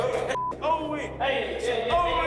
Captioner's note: shouts; indistinct clamoring